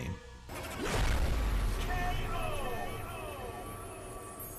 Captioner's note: loud explosion